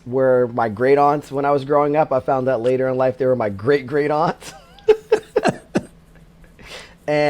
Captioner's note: laughs